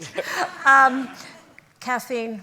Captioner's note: laughter